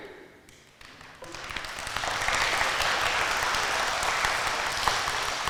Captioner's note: audience applauding